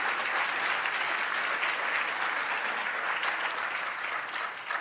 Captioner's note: applause